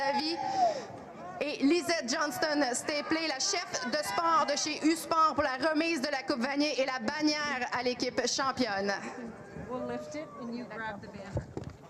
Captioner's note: speaking in french